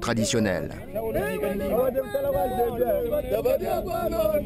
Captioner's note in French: audio en lingala